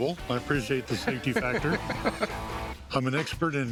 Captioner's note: laughs